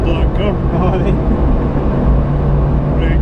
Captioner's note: chuckle